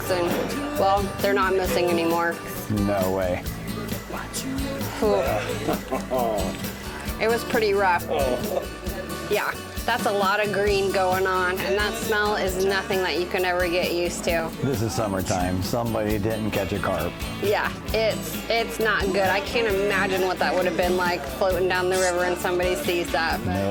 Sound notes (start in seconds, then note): 4.9 Joe chuckles; 8.5 Joe chuckles